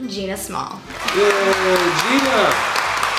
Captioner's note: clapping